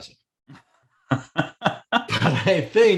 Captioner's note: laughs